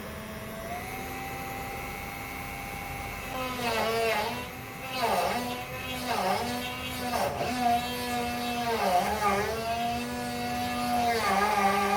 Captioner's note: drilling sounds